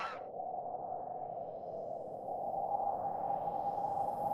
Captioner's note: wind howling